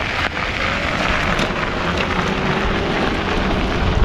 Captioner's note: wheel pattering